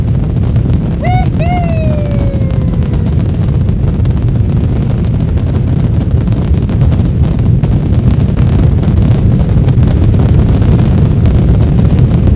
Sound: rocket Jets Rumbling

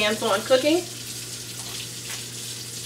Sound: water Running

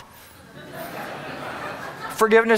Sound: audience laughing

